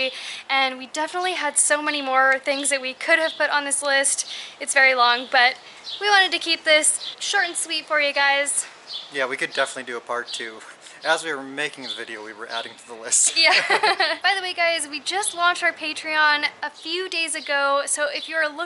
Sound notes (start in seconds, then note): 13.3 laughter